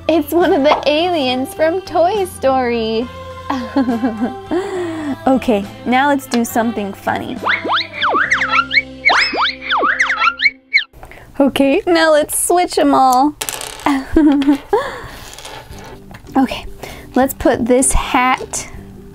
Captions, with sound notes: It's one of the aliens from Toy Story! (giggles) Okay, now let's do something funny. (whooshing) Okay, now let's switch 'em all. (giggles) Okay, let's put this hat...